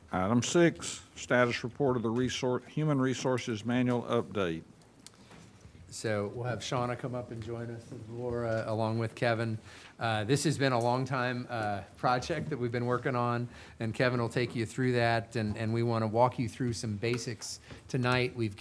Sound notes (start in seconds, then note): none